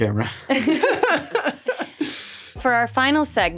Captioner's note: all laughing